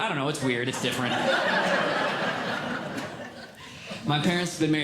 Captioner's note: audience Laughing